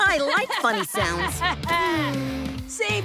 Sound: laughing; sighing

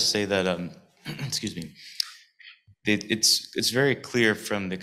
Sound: clears throat

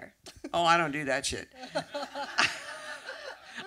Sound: laughs

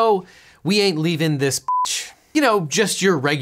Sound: beep

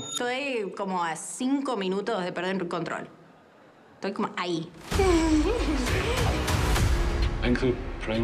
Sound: speaking spanish

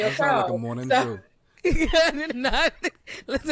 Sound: laugh

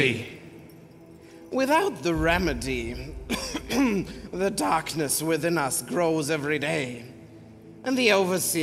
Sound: coughs

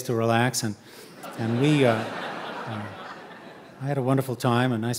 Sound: audience laughing

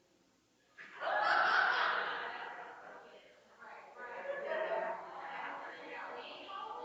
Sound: people laughing and chattering

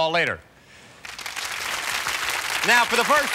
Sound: applause

